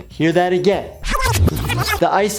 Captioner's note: rewind chipmunk squeaking